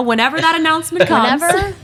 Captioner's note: Phil laughs